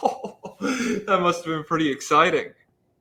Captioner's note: laughs